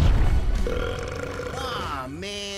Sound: burping

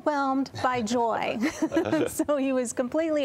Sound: laughter

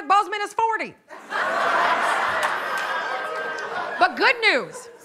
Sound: laughter

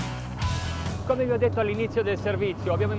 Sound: speaking in foreign language

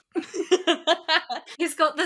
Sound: laughs

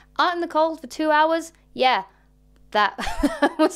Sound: laughs

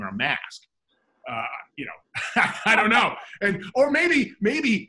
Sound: laughs

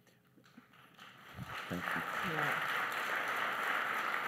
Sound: applause

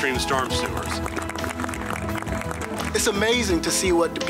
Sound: crowd applauding

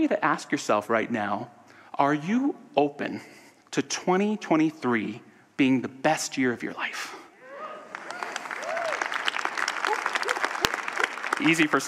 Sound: audience cheers and applause

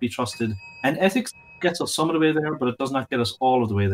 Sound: bell dings

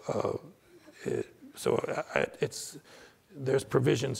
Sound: stammering

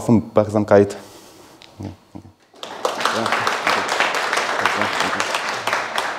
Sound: applause

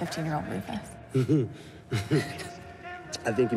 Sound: Rufus laughs; Jane chuckles

